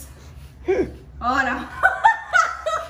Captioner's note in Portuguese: Risada